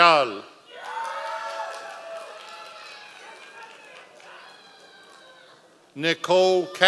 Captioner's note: members of the audience cheering